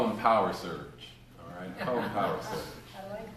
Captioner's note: laughter